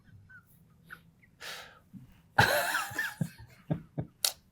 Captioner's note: laughter